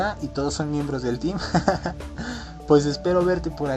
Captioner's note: laughs